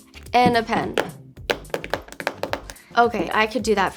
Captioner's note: clicking pen on journal